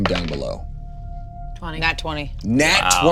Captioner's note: die rolling